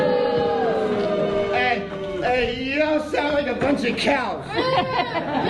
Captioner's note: crowd booing